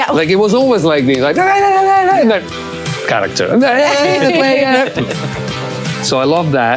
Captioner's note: mumbling